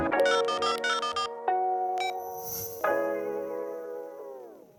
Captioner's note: gentle music; phone button tone